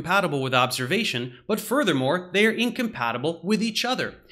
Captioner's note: none